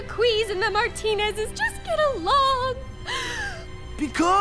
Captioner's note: sobs melodramatically